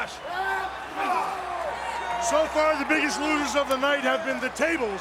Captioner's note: applause; applause